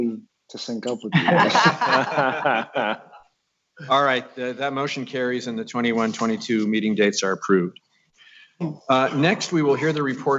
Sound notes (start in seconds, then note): 1.1 laughing